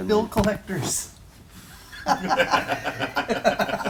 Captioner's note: laughter